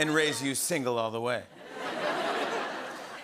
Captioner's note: laughter